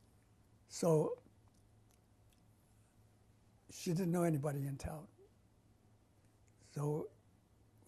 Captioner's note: pauses for 3 seconds